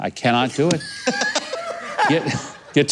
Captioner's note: laughter